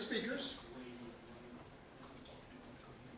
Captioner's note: low volume speaking off camera